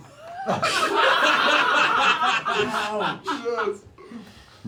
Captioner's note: laughter